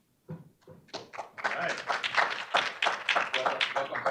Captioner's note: audience applauding